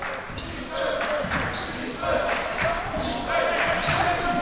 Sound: crowd cheering

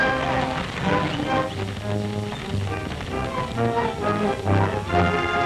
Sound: gun shots

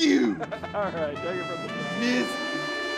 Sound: laughs

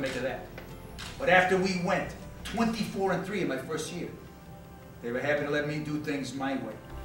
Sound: camera clicks

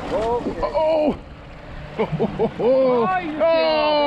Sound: chuckling

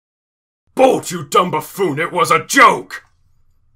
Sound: yelling

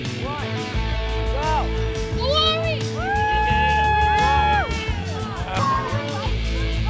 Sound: group cheering

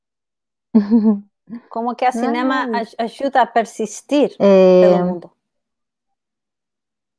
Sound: speaks portuguese

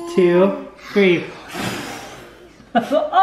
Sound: blowing; chuckling

